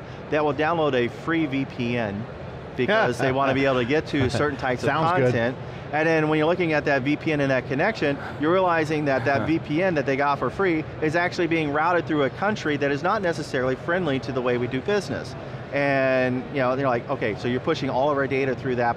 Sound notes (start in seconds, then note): 2.6 laughing